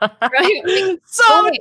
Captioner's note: laughing